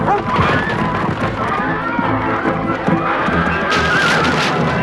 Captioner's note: Beast barking; Hundra shouting; people screaming; wood cracking